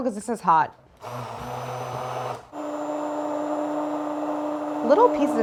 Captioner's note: blender whirring